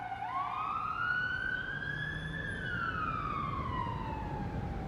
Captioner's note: ambulance sirens